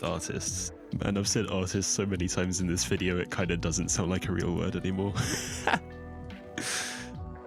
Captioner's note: laughs